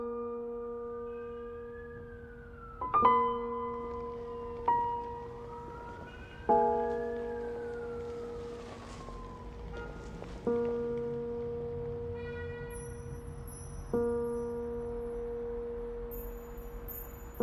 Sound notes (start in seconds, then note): 1.3 distant sirens wailing